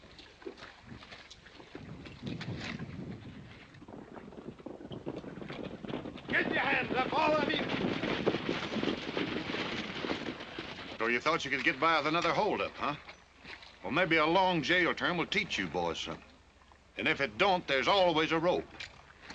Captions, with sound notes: [ HORSES GALLOPING ] Get your hands up, all of you. So you thought you could get by with another hold up, huh? Maybe a long jail term will teach you. And if it don't, there's always a rope.